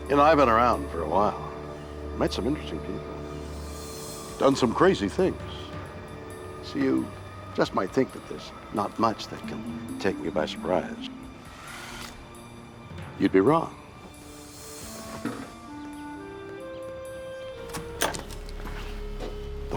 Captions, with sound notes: - I've been around for a while, met some interesting people, done some crazy things. So you just might think that there's not much that can take me by surprise. (wheels whir) You'd be wrong. (door opens) (tense brooding music)